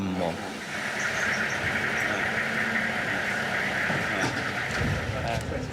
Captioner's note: van engine rumbling